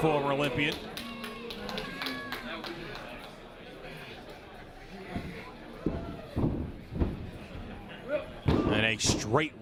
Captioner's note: applause